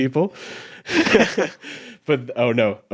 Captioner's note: chuckles